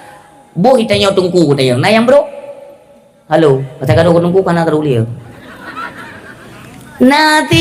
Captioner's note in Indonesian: tertawa